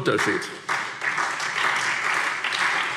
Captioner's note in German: Beifall SPD